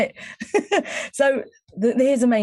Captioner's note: chuckling